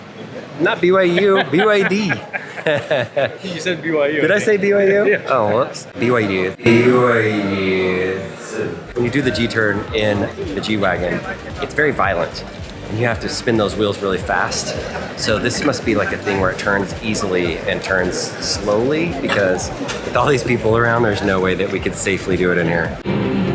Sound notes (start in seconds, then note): 0.3 laughs; 5.4 laughs; 23.3 energetic music